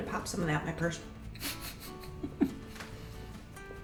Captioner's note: chuckling